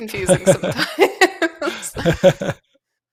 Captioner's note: laughter